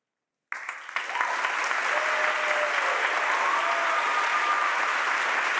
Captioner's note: audience applauds and cheers